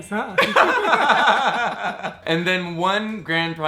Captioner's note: laughing